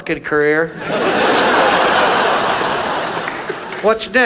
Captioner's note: audience laughs